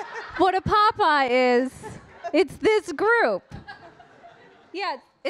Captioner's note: audience laughing